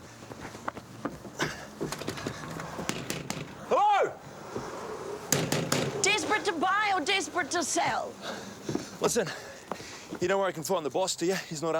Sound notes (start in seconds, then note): 0.1 footsteps tapping; 1.9 John sighs; 3.1 knuckles rapping; 5.5 knuckles rapping